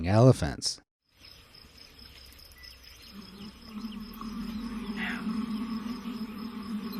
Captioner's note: birds tweeting; bees buzzing